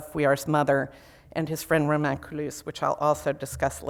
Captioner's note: foreign language